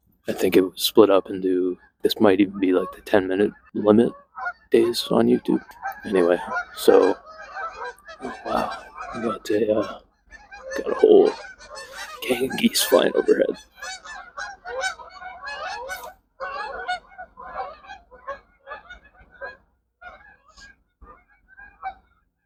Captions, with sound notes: I think it was split up into… this might even be like the 10-minute-limit days on youtube. Anyway, so… (flock of geese honking) Oh wow. We got a, uh… got a whole… gang of geese flying overhead. (geese honk some more as they fly over) (honking fades)